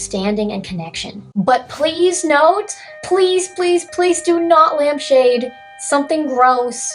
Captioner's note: sirens